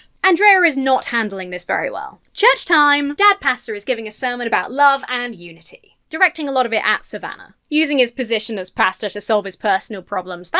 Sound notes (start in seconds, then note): none